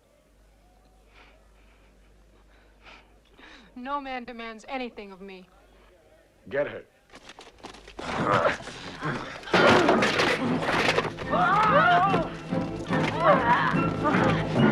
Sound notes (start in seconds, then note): 1.1 Hundra chuckles; 7.9 Hundra and guards grunting; 11.2 dramatic music